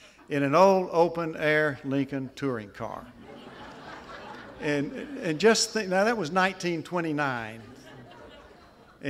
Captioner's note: laughter